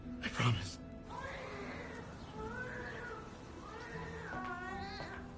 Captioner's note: Lisa sniffling; baby crying; crying continues